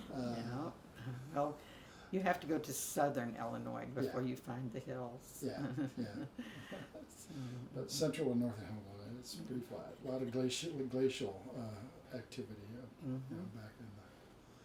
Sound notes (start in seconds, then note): 5.5 both chuckles